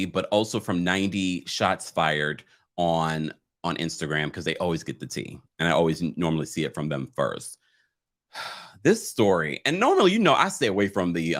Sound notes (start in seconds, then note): 8.3 sighs